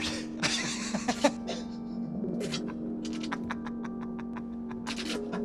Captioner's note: laughing hysterically